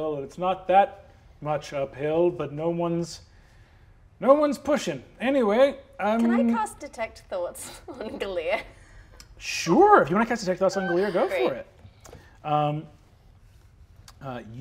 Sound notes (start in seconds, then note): 8.7 laughs